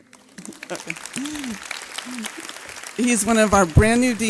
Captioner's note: audience clapping